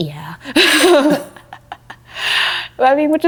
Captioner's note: laughing